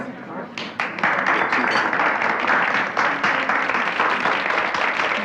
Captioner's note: audience applauding